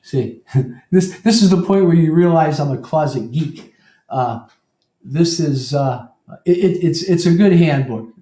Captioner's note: laugh